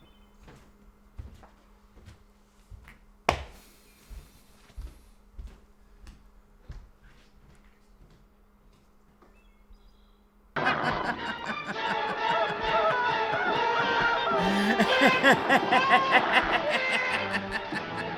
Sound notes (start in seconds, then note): 1.2 footsteps plodding; 3.3 hand slaps; 10.6 Brad laughing; 10.6 suspenseful music; 11.7 man on gurney screaming